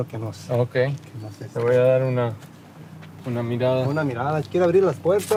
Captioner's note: customer speaking in Spanish; speaking in Spanish